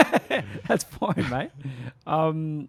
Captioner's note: laughs